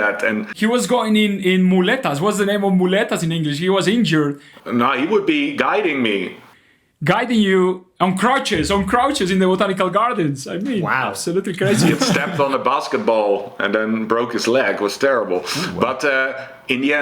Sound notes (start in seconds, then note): 11.6 laughs